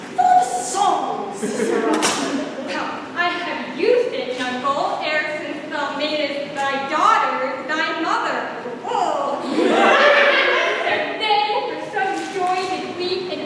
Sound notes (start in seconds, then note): 9.4 laughter